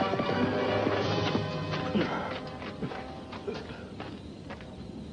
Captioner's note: coughing